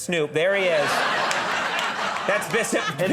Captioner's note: audience laughing